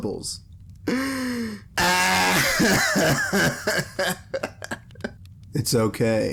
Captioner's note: cracking up